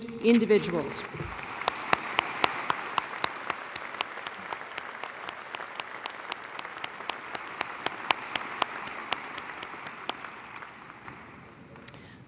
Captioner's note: applause